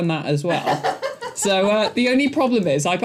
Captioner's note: laughing